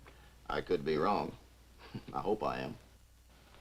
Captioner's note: chuckles